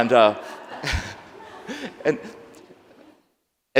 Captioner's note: laughs